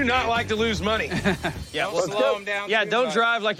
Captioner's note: laughs